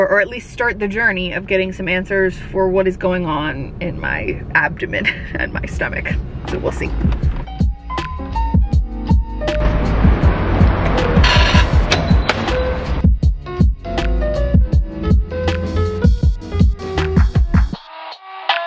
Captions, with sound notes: or at least start the journey of getting some answers for what is going on in my abdomen and my stomach. So we'll see. (light music) (ticket dispenser screeches) (ticket dispenser beeps)